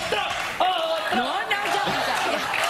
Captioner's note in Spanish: aplausos; gritos